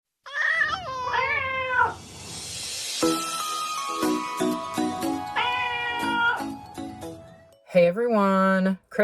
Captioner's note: meowing Cats